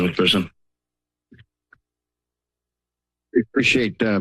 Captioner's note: silence